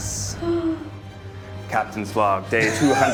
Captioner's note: gasping